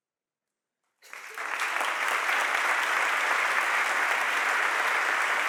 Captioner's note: audience applauding